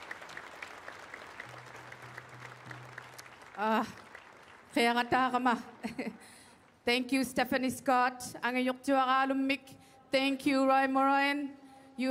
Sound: applause; speaking Indigenous Language

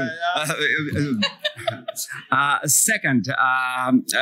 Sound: laughter

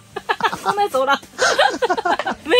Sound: laughs

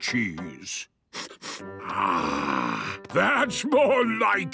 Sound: sniffs

